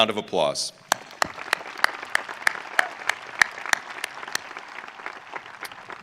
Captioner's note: audience applauding